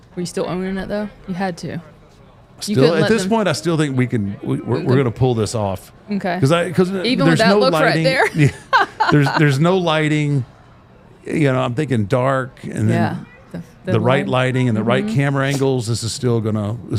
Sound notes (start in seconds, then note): 7.9 laughs